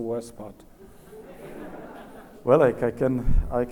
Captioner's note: audience laughs